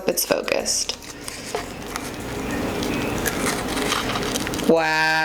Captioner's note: cracker crunching